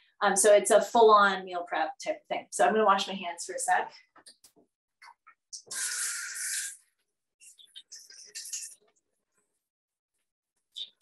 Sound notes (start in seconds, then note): 6.0 water running